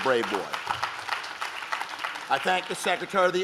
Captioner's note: audience claps